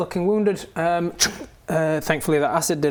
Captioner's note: ssshunk